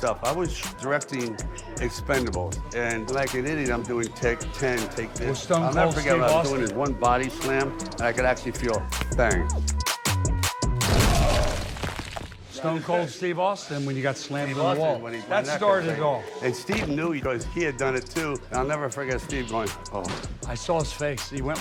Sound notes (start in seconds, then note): 9.6 upbeat music; 10.8 body thuds